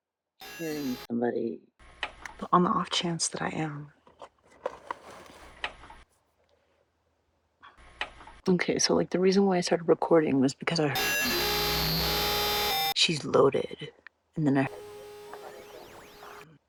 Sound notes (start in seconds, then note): 11.0 signal spike